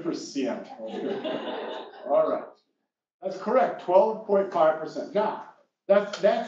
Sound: laugh

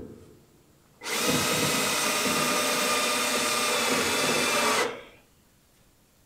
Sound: drilling

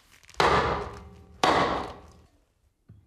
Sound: loud knocking

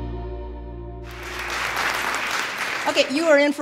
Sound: applause

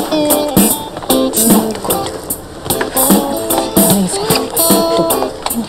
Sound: couple chatting

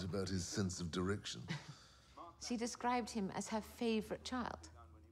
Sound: chuckles

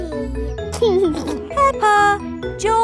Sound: giggling

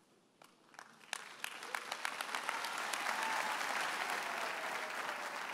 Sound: audience applauds

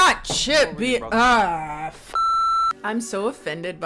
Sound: beep

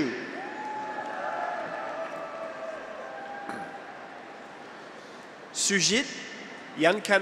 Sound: graduates cheer; audience applauds

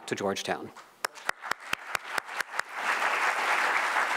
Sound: audience applauds

